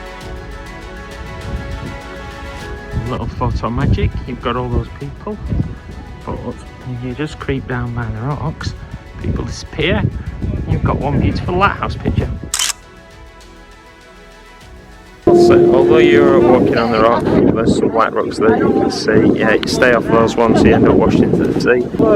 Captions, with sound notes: A little photo magic You've got all those people but if you just creep down by the rocks people disappear You've got one beautiful lighthouse picture [Camera click] Although you're walking on the rock there's some light rocks there you can see Yeah stay off those ones you end up washing into the sea